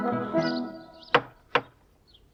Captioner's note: knocking